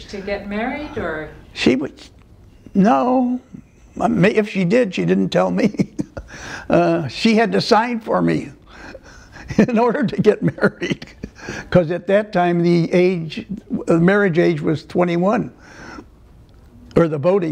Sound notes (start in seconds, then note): 6.5 laughter